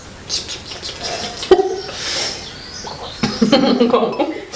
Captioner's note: laughs